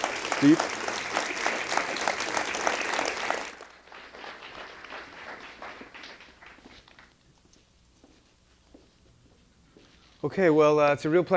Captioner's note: applause